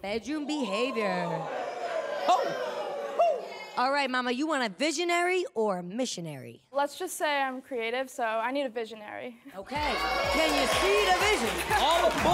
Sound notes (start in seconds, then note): 0.3 audience groans